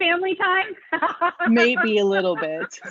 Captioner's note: laughing